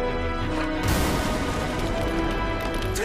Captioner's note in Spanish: Explosión